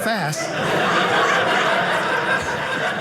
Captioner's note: audience laughing